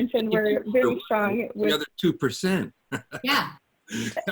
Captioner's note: laughs